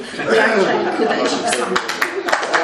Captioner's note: audience laughs; audience claps